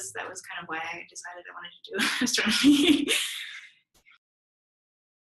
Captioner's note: laughs